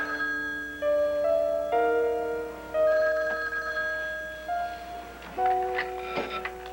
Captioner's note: telephone rings